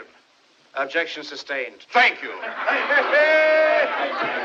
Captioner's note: all Laughing